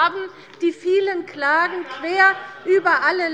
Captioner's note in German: Zurufe der FDP